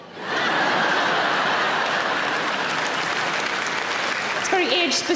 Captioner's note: audience laughter and applause